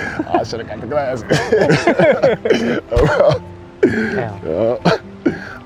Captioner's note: both laughing